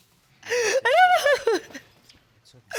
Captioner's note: crying continues